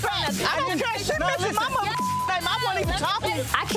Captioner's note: beep